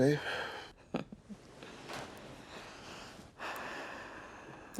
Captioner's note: Beverly chuckles softly